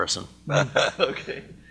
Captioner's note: laughter